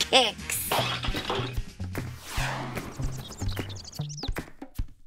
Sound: objects clattering; birds chirping; upbeat music

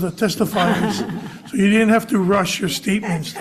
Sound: audience laughing

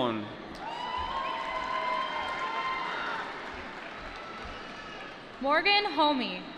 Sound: applause

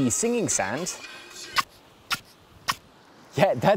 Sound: sand squeaks

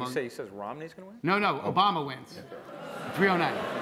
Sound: laughter

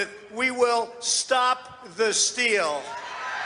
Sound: cheering

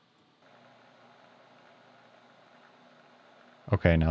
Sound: lathe machine whirring

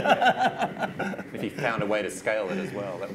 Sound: laughs

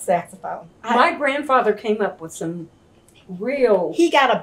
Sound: laughs

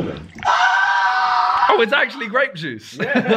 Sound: screaming; chuckling

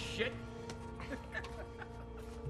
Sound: laughs

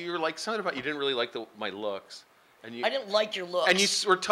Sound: sarcastically

